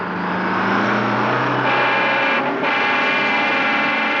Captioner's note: honking horn